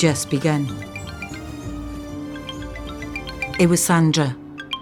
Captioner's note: ring tone